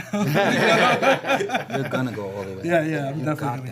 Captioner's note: laughter